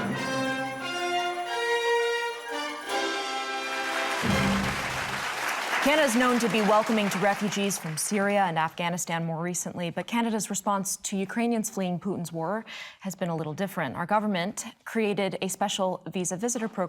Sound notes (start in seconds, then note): 3.5 audience clapping